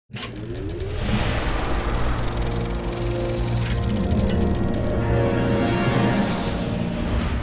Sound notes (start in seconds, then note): 1.0 projector chattering